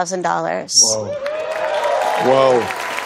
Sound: cheers and applause

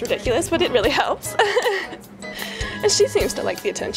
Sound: laughs

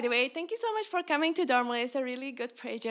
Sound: speaks in foreign language

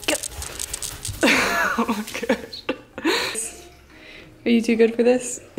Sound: laughs

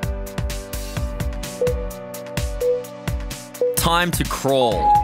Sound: timer beeping

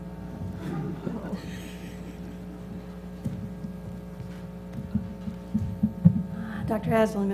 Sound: laugh

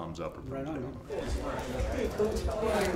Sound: chatter

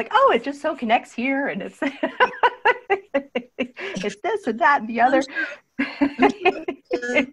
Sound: laughter

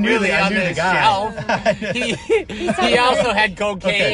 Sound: laughing

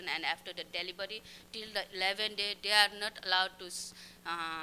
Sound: non-english speech

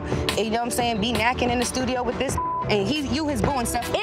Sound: beep

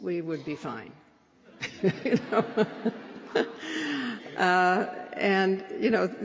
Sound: laughter

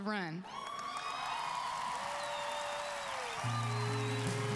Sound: audience cheering

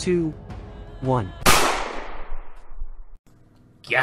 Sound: gunshot sound intensifies

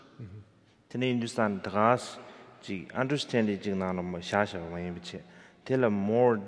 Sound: speaking in foreign language

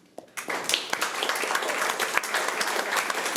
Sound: applause

